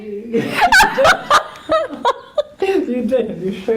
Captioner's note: laughter